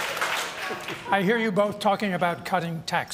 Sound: laughter

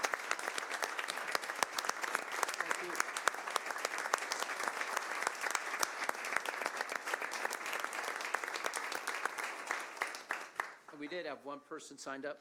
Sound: applause

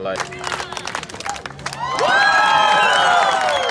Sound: applause

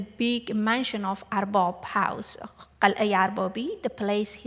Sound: non-english

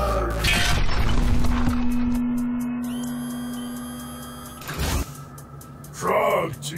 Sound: Trog whirring; ax clangs

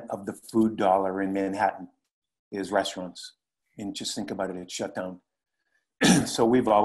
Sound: cough

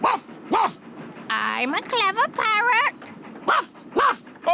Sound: barks; barks; all laugh

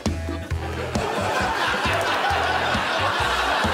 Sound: laughter

